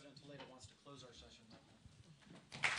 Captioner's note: applause